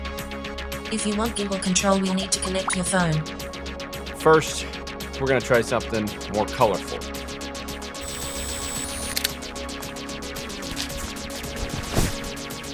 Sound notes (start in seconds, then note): 8.0 whirring; 8.0 clicks